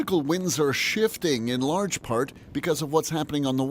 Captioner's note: speaking French